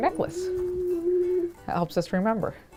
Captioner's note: hums